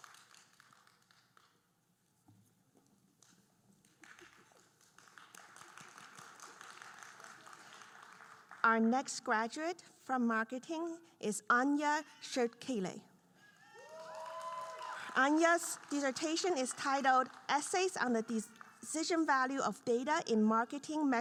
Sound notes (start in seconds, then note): 3.9 audience applauding; 13.6 audience cheering